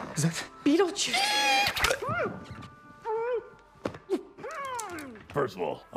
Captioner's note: muffled shouting